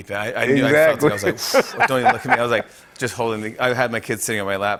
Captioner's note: laughs